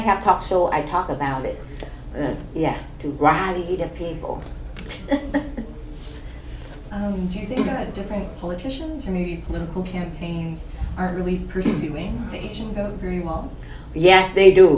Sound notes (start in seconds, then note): 4.8 laughs; 6.5 clears throat